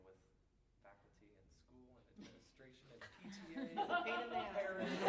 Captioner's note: laughter